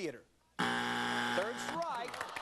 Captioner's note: buzzer